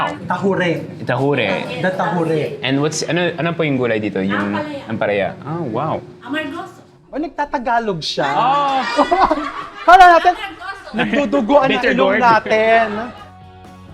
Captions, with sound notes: - Tahure. - Tahure. - The tahure. - And what's the vegetable in this? - Ampalaya. - Ampalaya. Oh, wow. - He speaks Tagalog. (laughs) - Our noses are bleeding.